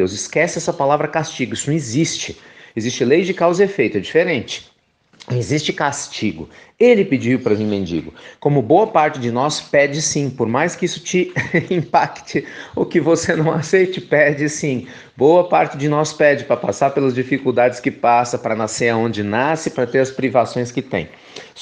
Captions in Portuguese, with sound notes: Esqueça essa palavra castigo, isso não existe. Existe a lei de causa e efeito. É diferente! Não existe castigo. Ele pediu para vir mendigo, como boa parte de nós pede sim. Por mais que isso lhe impacte (risos) ou que você não aceite, pede sim. Boa parte de nós pede para passar pelas dificuldades que passa, para nascer onde nasce, para ter as privações que tem.